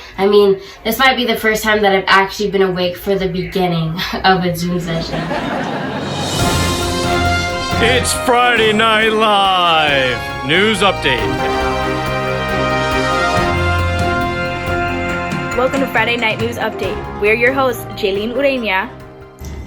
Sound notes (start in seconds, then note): 4.7 audience laughing; 7.1 orchestral music